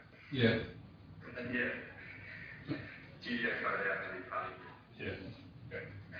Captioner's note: audio distorts